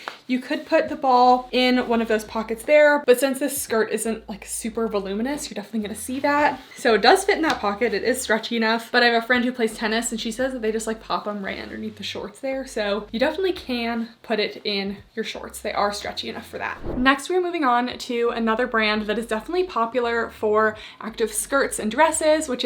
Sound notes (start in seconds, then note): 16.7 screen whooshing